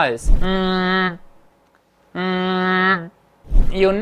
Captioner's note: hums